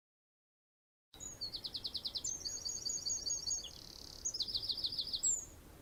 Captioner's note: bird singing